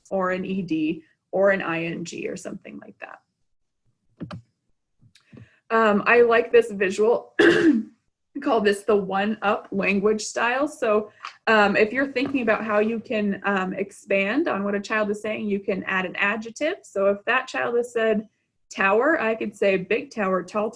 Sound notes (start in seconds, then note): 7.4 clears throat